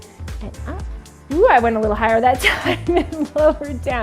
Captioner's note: laughs